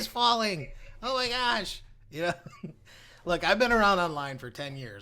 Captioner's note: laughs